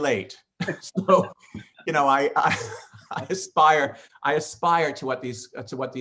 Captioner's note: laughing